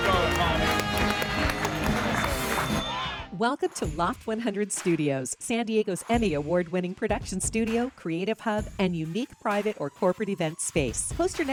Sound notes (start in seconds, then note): 1.9 audience applauds; 1.9 bell rings